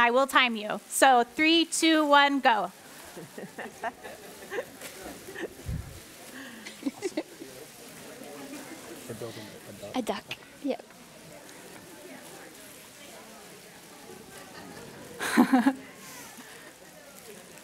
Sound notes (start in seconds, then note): 3.0 laughing; 7.8 murmuring; 14.4 laughing